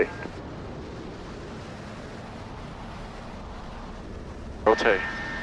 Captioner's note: plane engine whirring